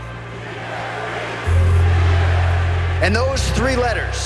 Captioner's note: crowd cheering "GSP! GSP!"